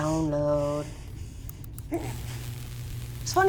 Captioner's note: electrical charge